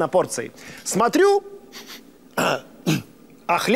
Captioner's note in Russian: он нюхает